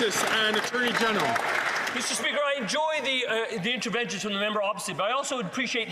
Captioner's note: some Applause